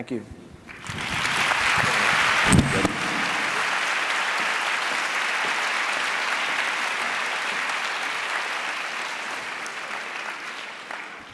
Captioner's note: applause